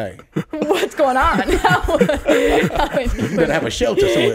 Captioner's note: all laughing